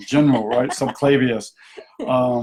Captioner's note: laughs